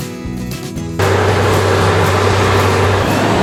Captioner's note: skid Steer Engine Sound; forklift Engine Sound